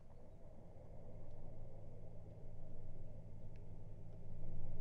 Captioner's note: none